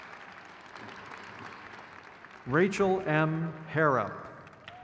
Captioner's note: crowd claps